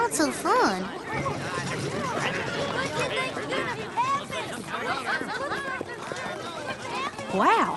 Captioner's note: crowd chattering